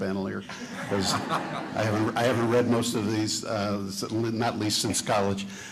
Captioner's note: chuckling